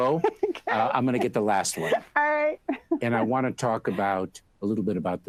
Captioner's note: Batty and Mayorkas laugh